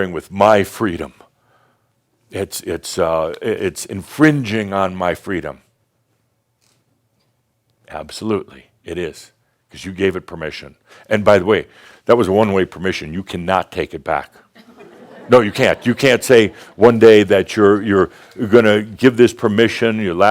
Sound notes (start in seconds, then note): 14.6 some chuckles